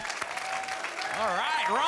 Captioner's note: applause